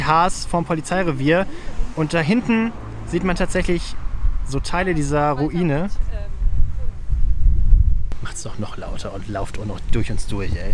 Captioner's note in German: fußgänger drängeln sich laut redend durchs uns durch